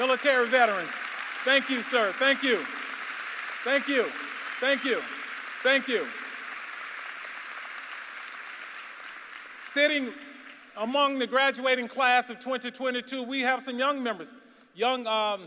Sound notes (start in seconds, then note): 4.2 applause; 10.6 applause